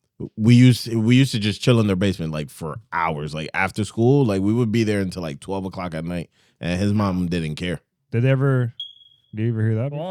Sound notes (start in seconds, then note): none